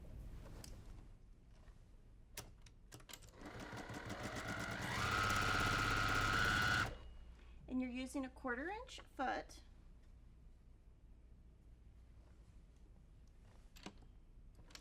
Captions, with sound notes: (sewing machine humming) And you're using a 1/4 inch foot.